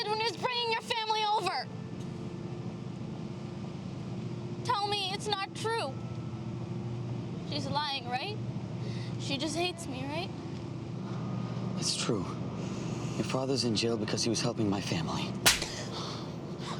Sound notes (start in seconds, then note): none